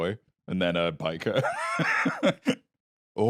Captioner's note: laughs